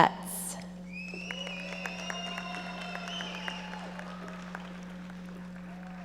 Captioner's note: audience members cheering and applauding